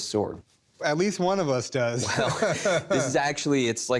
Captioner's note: laughs